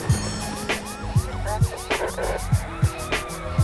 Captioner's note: police siren wailing